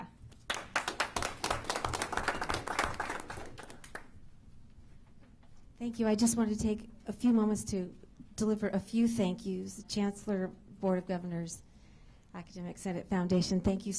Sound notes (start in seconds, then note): 4.0 applause